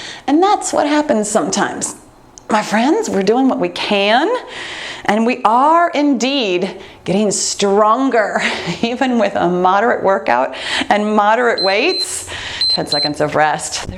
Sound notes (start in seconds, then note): 12.5 timer beeps